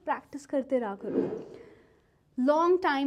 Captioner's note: slide wooshes